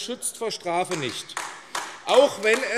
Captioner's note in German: Beifall AfD